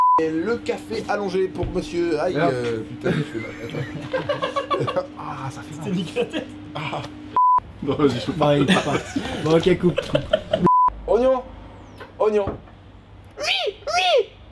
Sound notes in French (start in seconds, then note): 8.0 Fou Rire